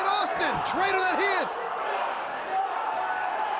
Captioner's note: crowd cheering